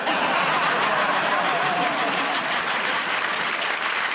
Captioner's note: laughter